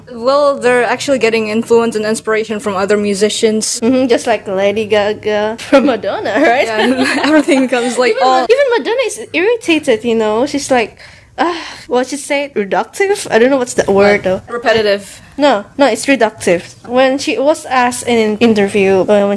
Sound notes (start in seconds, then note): 6.4 laughs